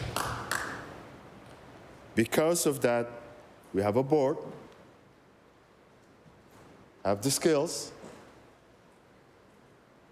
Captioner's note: applause